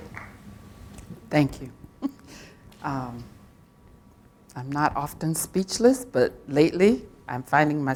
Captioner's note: applause